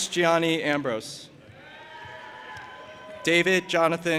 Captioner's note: audience applauding and cheering